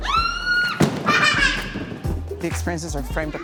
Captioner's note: child screaming, laughing